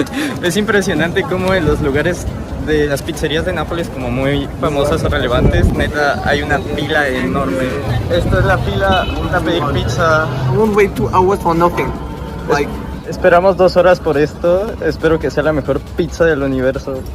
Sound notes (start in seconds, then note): 8.4 a dog honks a horn